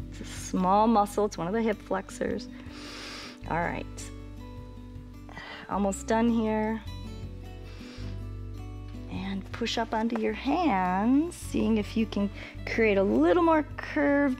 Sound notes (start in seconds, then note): 7.6 inhales